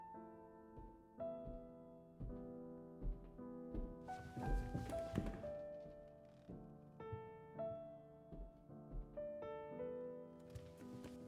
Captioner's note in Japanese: 階段を上る足音